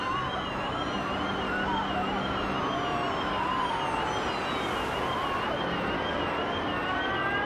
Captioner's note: siren blaring; people screaming